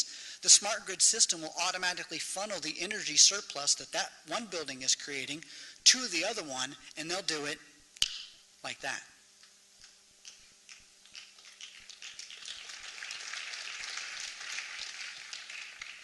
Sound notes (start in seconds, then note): 10.2 snaps fingers; 11.1 applause